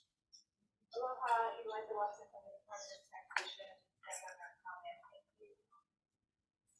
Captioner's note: Representative from DoTax speaks faintly